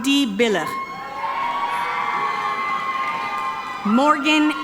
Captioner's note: audience cheering